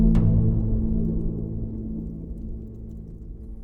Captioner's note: distant thunderous rumble